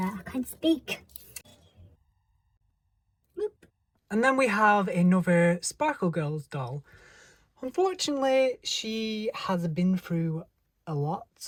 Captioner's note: gasp